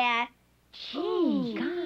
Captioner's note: all chattering